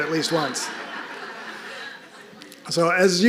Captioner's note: audience laughing